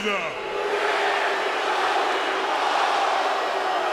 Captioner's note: crowd booing